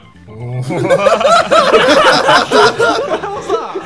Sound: group laughing

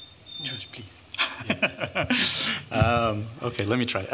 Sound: laughter

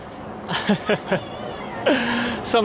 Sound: chuckles

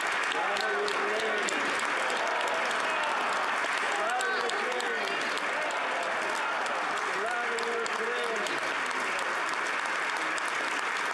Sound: applause; chanting

